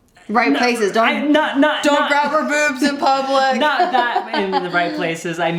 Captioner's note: laughs